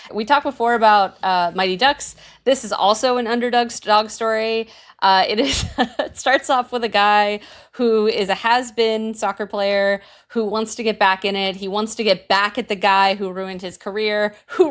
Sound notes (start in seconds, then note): 5.3 laughing